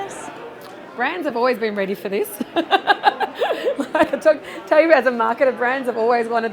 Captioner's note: laugh